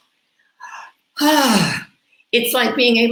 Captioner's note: exhales